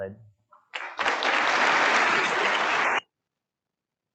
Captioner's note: audience applauds